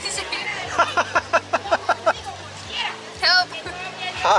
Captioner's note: laughing